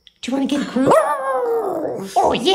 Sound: howling

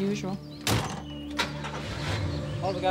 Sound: engine starts

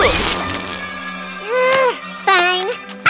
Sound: sighs

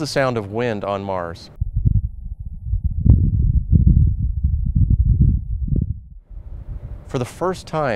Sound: wind blowing

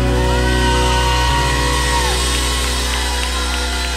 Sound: audience cheering

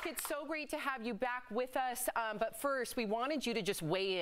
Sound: applause

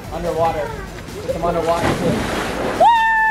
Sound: splashing; cheering

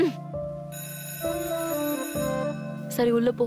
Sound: school bell ringing

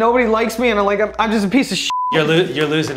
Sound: beep

